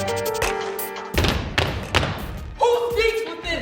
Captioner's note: group stomps